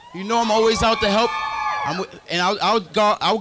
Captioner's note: crowd cheers